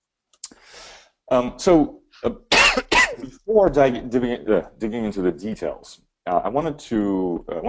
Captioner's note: coughs